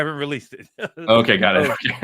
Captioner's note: laugh; laughs